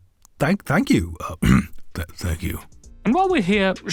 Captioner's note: clears throat; in Stephen voice